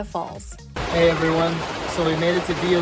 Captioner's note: water gushing